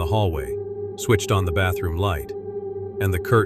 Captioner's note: low, tense voice